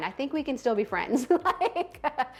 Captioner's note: laughs loudly